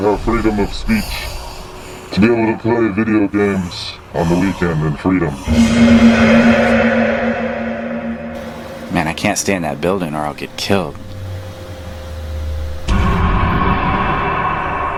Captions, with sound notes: to have freedom of speech, to be able to play video games on the weekend and freedom. - [Mr. X VOICEOVER] Man, I can't stay in that building or I'll get killed.